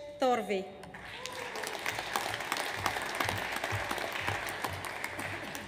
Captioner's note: audience applauds